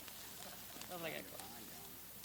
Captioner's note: people laugh